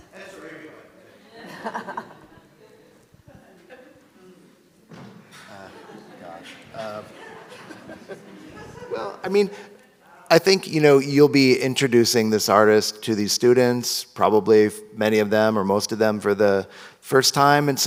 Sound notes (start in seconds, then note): 1.1 audience laughs; 3.0 audience chatters